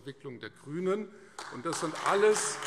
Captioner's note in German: Beifall Freie Demokraten und AfD - Widerspruch BÜNDNIS 90/DIE GRÜNEN